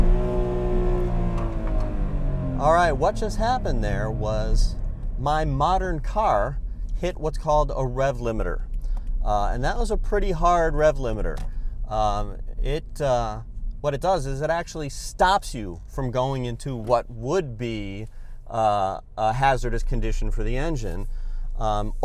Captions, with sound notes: [REVVING SOUND] All right what just happened there was, my modern car hit what's called a rev limiter. And that was a pretty hard rev limiter. It -- what it does is it actually stops you from going into what would be a hazardous condition for the engine.